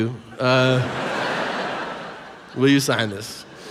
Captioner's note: audience laughs